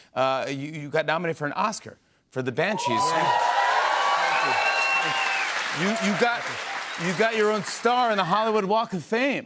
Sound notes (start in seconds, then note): 2.8 cheers and applause